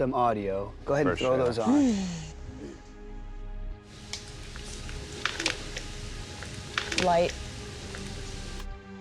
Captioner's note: sighing